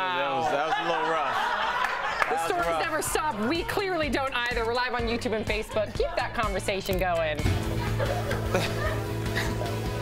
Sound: laughter

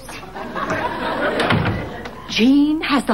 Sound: audience laughing

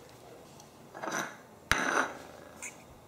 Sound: dish clank

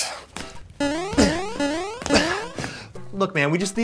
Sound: bouncing

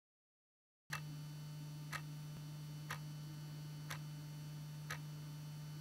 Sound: sound of a clock ticking

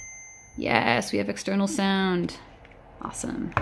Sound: ding

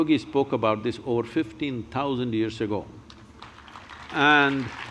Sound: applause

